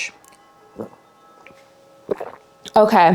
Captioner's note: water splashing